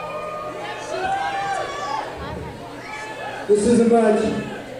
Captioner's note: crowd cheering